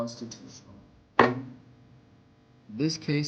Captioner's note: knock